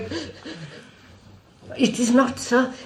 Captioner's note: laughs